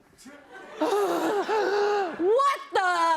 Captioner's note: gasps; breathing sharply